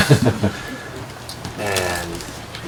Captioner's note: all laugh